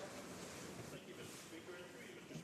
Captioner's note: some Applause